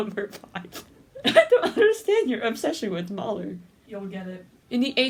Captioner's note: laughing